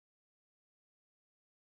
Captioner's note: none